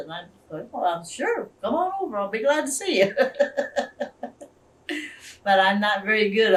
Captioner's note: laughs